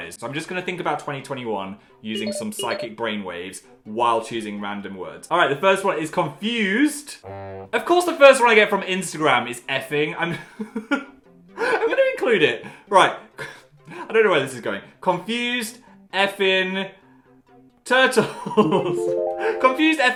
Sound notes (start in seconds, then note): 10.7 laughing; 18.6 mystical music